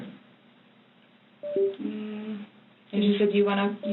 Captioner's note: mobile device beeps softly